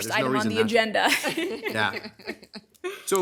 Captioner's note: everyone laughing